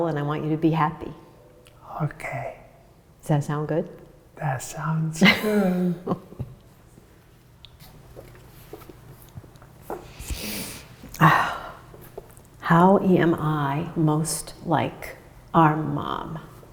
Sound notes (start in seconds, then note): 5.9 laughs; 10.0 deep breath